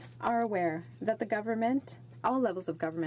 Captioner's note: speaking french